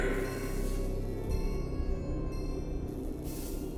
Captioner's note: lights buzzing